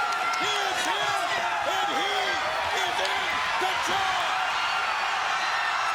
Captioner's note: crowd cheering drowns out commentators